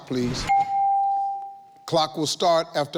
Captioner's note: bell dings